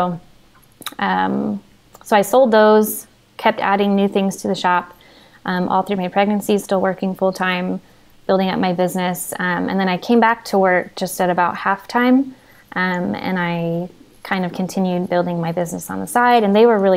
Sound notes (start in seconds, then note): none